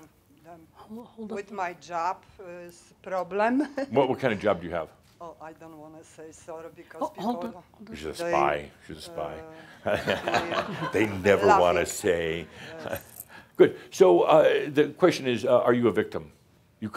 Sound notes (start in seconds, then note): 2.6 she chuckles; 9.8 laughter